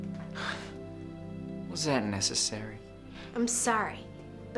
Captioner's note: scoffs